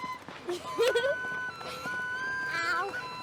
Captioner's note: laughing